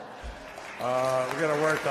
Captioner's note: applause